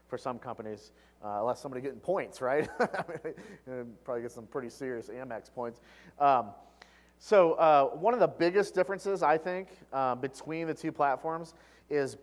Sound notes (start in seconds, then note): 2.6 laugh